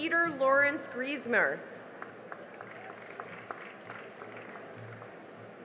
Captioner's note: cheering and applause